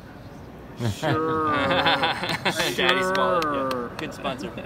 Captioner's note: all laugh!